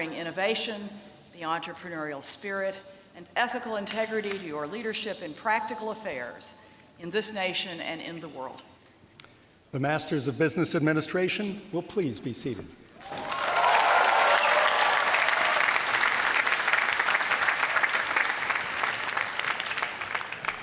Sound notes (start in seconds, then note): 13.0 applause